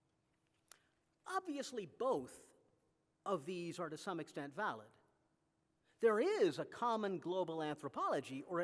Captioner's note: none